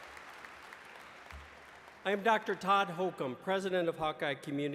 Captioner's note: applause